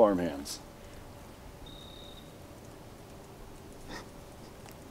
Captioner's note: laughter